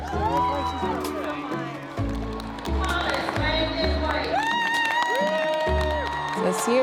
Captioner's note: cheers and applause